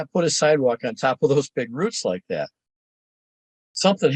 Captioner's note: chuckling